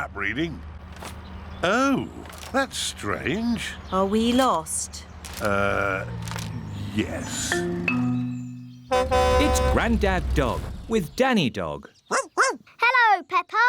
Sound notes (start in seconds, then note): 8.8 horn honks; 12.1 barking